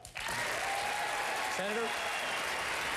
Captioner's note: applause